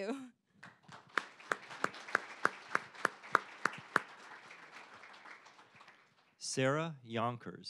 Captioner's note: applause